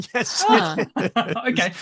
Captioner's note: laughter